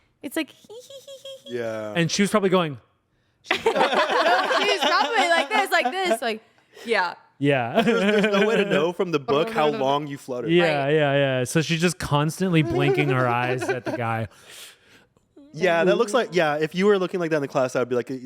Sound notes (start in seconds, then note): 3.5 everyone laughs; 7.8 laughs